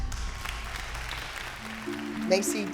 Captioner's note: scattered applause